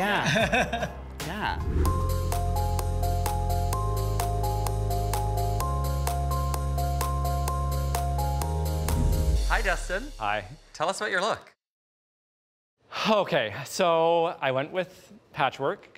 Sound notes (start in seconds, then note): 0.1 person chuckling; 1.5 image whooshes; 2.8 gentle upbeat music